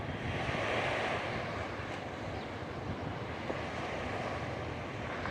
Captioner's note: rumble of waves